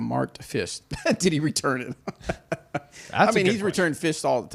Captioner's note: laughs